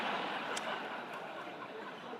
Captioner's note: laughter